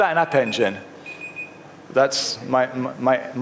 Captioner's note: chirping